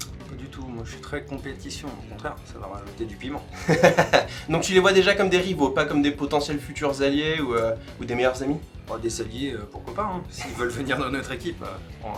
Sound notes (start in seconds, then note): 3.6 yet another laugh